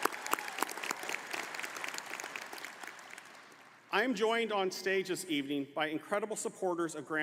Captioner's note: applause